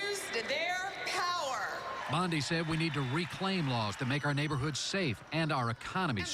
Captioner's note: cheering and applause